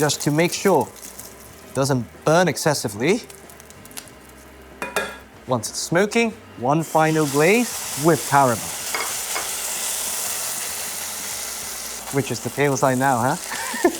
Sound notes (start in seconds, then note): 8.8 sizzling sound